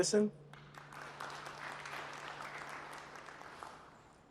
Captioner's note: applause